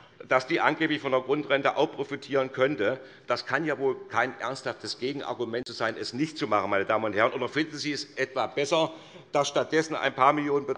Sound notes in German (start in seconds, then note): none